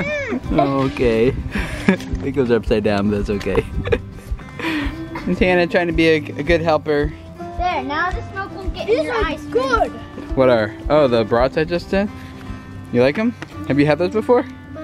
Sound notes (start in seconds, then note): 3.4 laughs